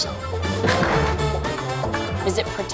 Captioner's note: body crashing